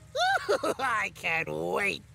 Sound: trucks shouting

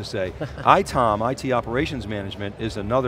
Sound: laughing

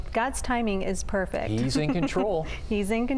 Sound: laughter

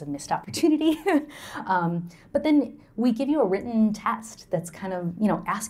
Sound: laughter

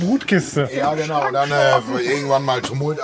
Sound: laughs

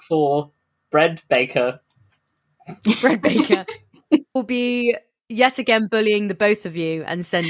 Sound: laughing

